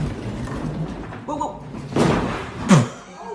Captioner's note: crash; laughter